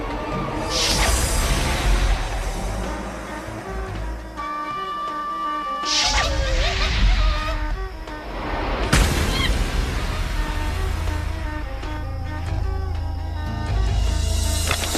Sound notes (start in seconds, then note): 6.1 monkey chattering